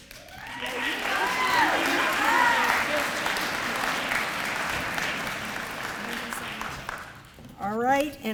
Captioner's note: applause